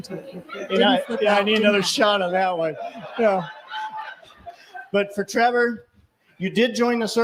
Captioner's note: laughter